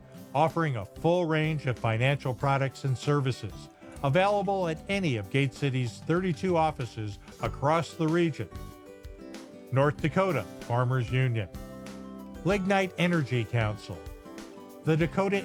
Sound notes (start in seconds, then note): none